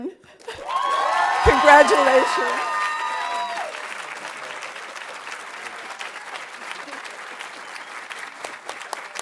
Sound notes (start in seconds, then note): 2.6 audience applauding; 2.6 audience cheering